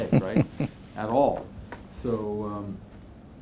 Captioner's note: chuckling